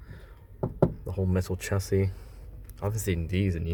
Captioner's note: knocks